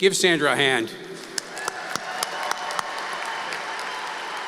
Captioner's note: applause